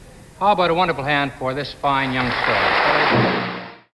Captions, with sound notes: HOW ABOUT A WONDERFUL HAND FOR THIS FINE YOUNG STAR. [AUDIENCE APPLAUDING]